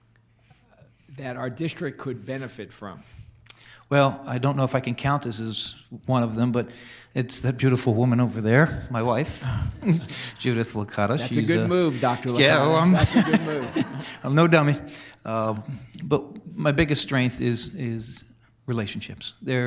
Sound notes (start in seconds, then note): 11.8 audience and board laughing